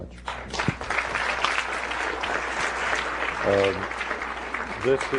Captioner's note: applause